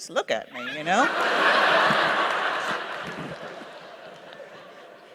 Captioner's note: laughter